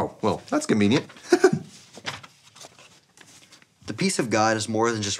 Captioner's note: laughs